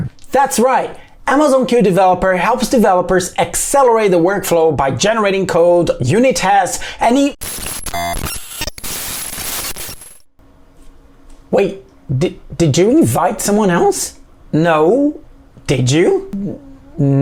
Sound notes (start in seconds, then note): 7.3 static hissing